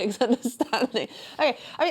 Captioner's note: laughs